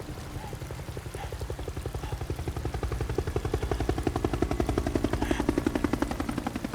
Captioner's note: helicopter whirring; Peter panting